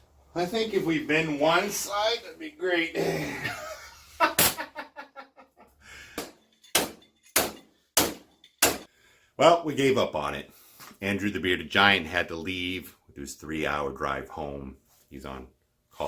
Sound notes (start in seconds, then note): 3.0 grunt; 4.6 ha ha ha